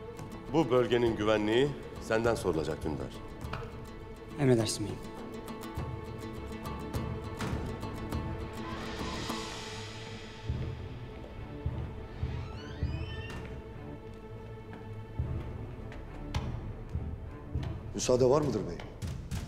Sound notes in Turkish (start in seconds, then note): 7.3 Kapı açılma sesi